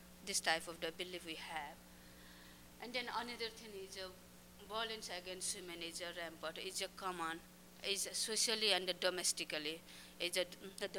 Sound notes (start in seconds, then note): 3.8 non-english speech